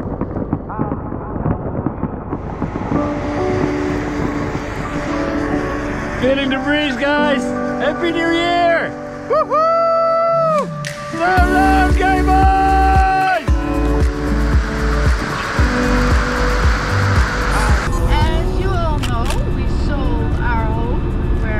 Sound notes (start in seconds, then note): 2.4 firework fizzing; 11.2 yells in Dutch